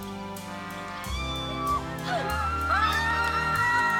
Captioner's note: screaming